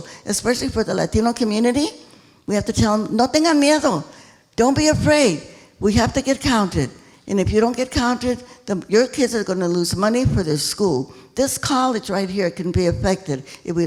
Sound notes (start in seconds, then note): 3.4 speaking in foreign language